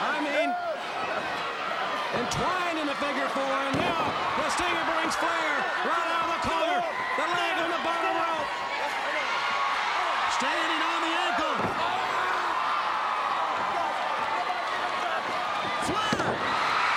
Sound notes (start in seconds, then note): 9.1 crowd cheering; 11.8 Ric yelling; 16.0 Ric thudding on ring